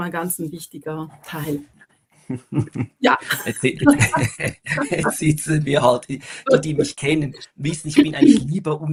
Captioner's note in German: gelächter